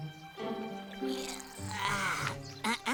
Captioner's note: rises grunting